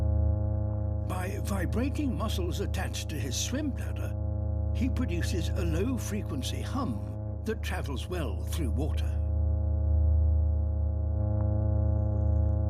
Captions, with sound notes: By vibrating muscles attached to his swim bladder, he produces a low-frequency hum that travels well through water. (HUMMING CONTINUES)